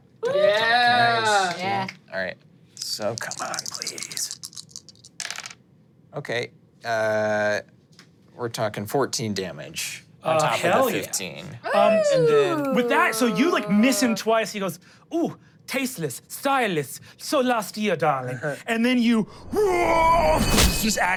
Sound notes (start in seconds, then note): 2.8 dice clinking; 4.5 dice rolling; 11.6 screams; 19.4 roars and knife slashing